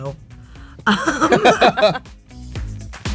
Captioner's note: all laugh; upbeat music